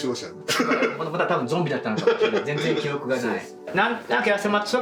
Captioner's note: laugh